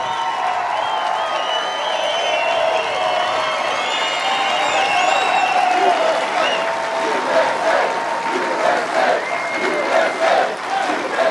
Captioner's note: cheers and applause